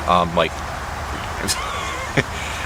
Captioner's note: laughing